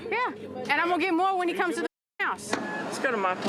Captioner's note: beep